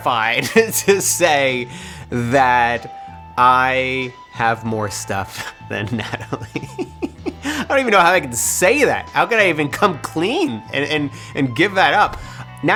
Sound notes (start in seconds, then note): 5.6 laughing